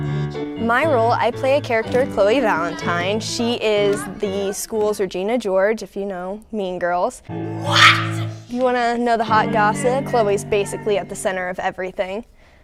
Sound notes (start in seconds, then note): 7.5 dramatic yelling